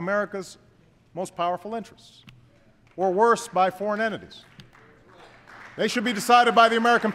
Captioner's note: applause